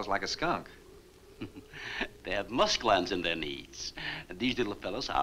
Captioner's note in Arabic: يضحك